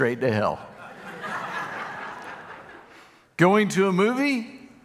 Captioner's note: audience laughing